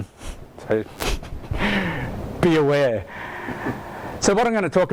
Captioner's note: laughs